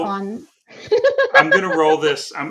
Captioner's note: laughing